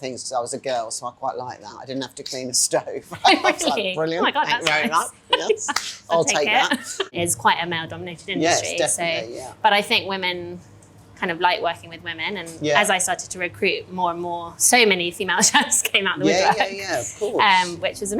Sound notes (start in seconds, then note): 3.1 laughing; 16.2 gentle jazz music